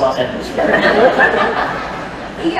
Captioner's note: laughter